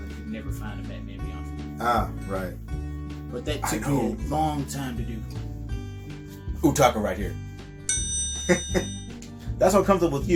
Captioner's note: chuckle